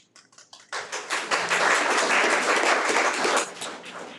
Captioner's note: audience clapping